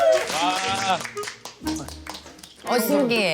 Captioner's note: hesitant